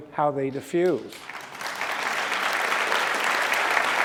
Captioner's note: applause